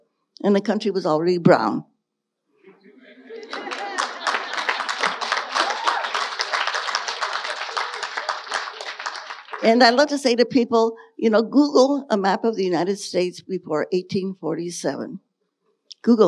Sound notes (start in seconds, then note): 2.7 audience laughing and applauding